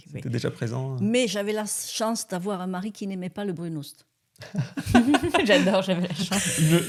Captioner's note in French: rires